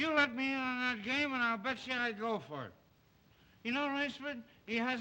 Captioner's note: slurring words